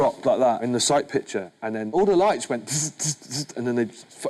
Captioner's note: zipping